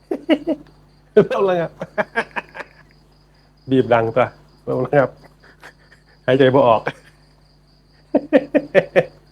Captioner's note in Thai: เสียงหัวเราะ; เสียงหัวเราะ